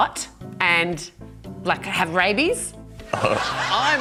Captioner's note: chuckles